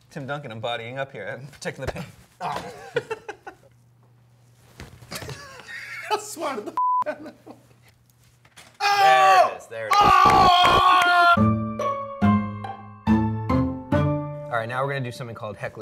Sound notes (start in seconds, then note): 3.0 laughs; 11.3 quirky music